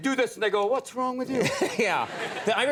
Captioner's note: audience laughs